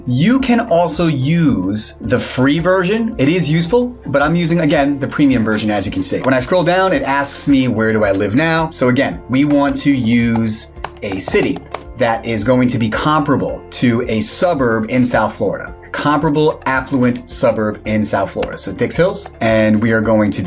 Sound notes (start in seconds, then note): 7.0 cursor clicks; 9.4 keyboard keys clicking; 10.2 cursor clicks; 18.0 keyboard key clicks; 18.2 cursor clicks